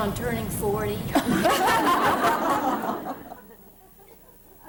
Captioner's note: laughter